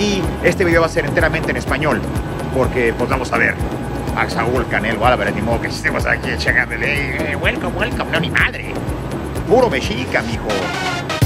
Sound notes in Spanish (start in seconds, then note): 6.4 hablando inglés